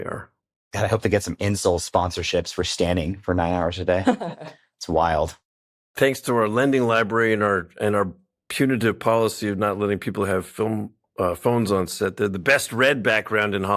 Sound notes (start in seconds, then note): 4.0 laughs